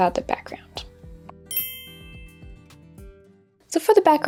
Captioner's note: bell chiming